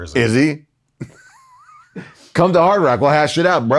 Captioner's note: laughing